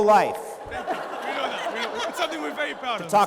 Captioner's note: laughter